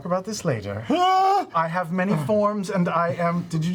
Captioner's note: screams